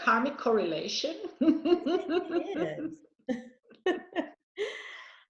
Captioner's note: both laughing